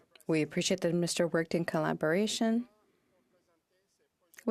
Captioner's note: speaking in French